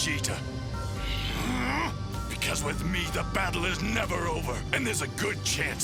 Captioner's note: grunts